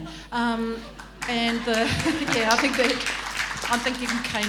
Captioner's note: laughing and applause